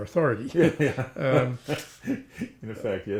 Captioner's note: laughs